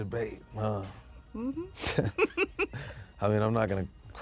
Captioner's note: laughing